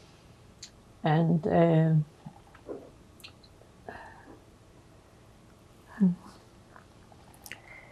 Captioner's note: pauses 8 seconds